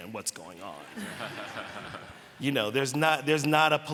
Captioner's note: laughter